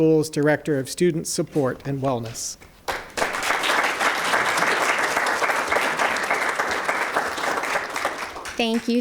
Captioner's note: clapping